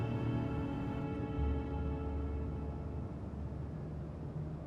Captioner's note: somber music; car engine humming